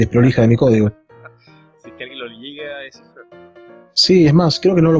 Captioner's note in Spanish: risas